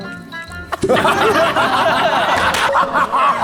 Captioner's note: failed to hold back laughter